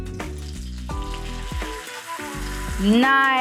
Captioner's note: pan frying